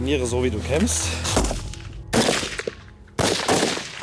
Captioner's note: multiple shots fired